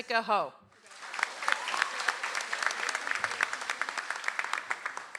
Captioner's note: audience applauds